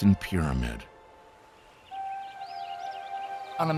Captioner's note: birds chirping